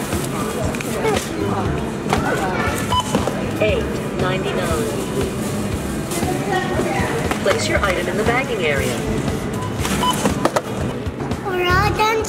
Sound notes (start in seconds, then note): 2.8 beep; 4.1 automated Voice; 9.5 beep